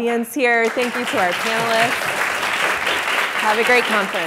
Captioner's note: audience clapping